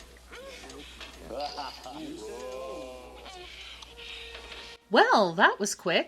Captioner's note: prisoners hoot